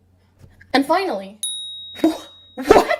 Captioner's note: ding